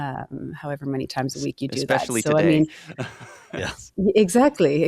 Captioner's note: chuckles